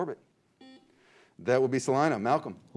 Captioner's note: beep